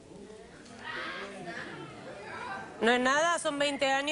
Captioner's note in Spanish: Comentarios del público